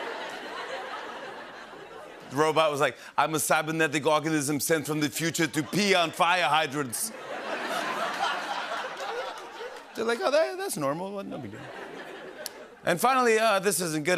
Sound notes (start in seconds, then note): 0.0 laughter; 7.2 laughter and applause; 11.3 laughter